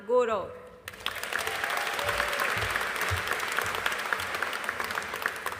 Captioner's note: audience applauding